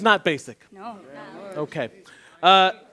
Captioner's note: chatter